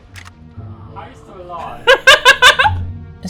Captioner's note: laughing